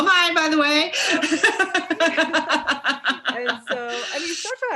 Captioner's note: both laugh